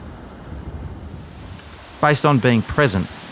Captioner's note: waves